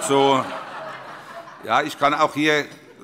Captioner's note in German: Heiterkeit